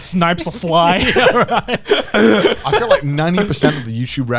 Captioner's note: laughs